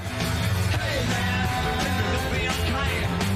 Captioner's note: laugh